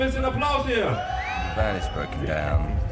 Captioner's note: speaks in foreign language; audience cheering